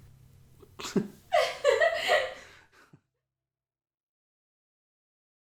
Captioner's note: laughter